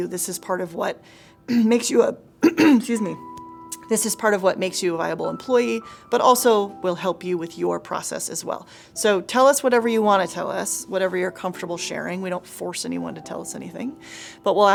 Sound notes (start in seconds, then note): 2.4 clears throat